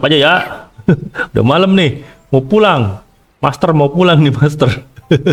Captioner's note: laughs